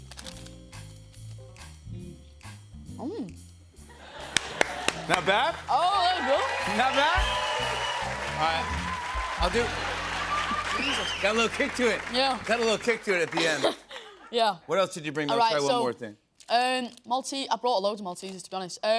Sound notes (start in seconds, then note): 6.6 cheers and applause